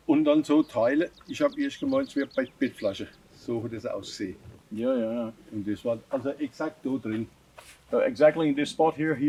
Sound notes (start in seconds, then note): 5.6 speaking German